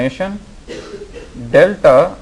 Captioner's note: student coughs